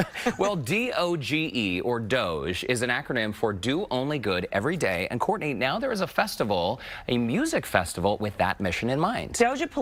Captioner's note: laughter